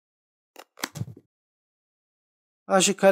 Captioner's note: the sound of the cutting scissors cutting the word of the graft, kirrrrrrtttt